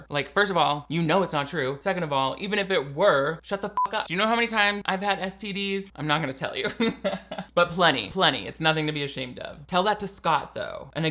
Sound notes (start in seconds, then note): 3.7 beep; 6.8 laughing